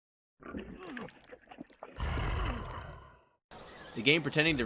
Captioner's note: being eaten noises